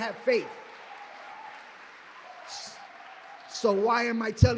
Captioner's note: applause